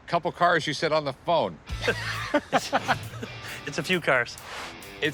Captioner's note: laughs